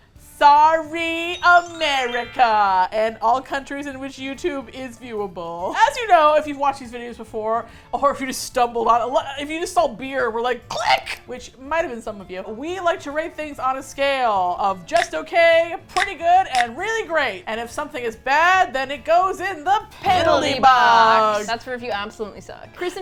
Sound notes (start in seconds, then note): 10.6 excitedly